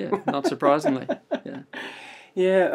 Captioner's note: laughter